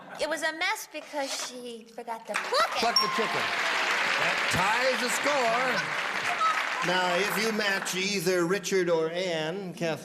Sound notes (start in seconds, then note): 2.2 applause; 3.2 Elaine cackling